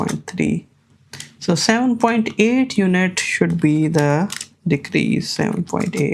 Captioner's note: keyboard clicking